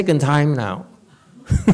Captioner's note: laughs